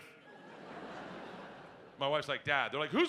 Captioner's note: audience laughing